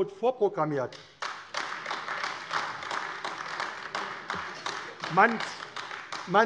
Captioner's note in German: Beifall AfD